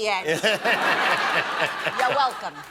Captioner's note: laughter